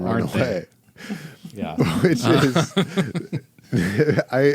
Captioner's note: laughing